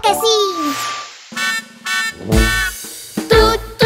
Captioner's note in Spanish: Sonido de bocina